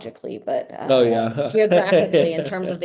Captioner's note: laughing